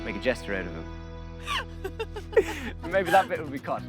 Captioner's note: laughs